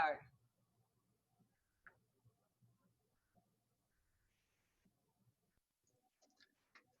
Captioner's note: silence